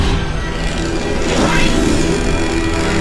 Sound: clattering; ratcheting

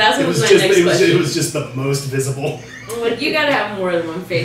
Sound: giggles

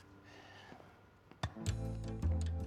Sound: Phillip sighing; ball bouncing

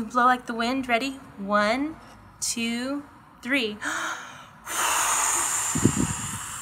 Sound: air blowing

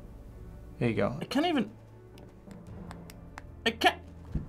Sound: needle tapping plastic

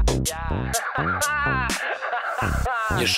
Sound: laughing

